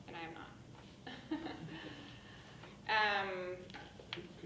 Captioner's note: laughing